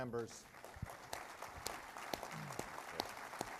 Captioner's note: applause